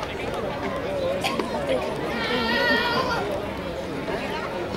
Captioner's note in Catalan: crida